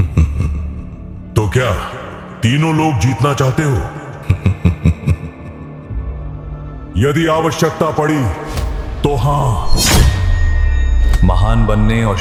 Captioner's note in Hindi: हंसी